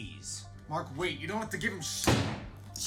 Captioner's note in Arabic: طلقات نارية